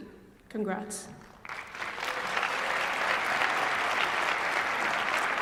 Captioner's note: applause